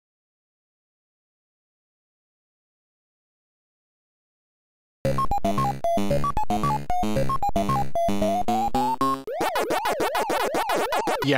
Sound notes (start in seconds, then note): 0.0 silence; 5.0 pac man arcade noises